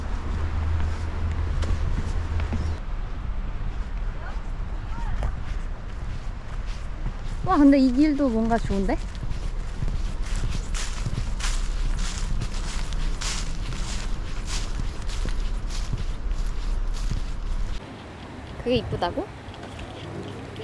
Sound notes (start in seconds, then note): 11.1 crunchy